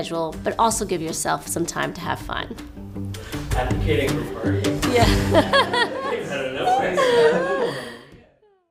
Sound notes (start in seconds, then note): 4.9 laughs